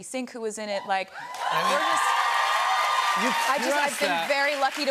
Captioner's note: cheers and applause